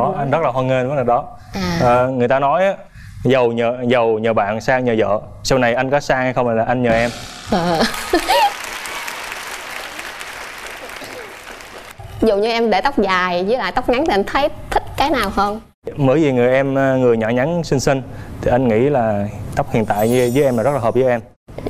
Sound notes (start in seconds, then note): 7.7 laugh; 9.4 audience applause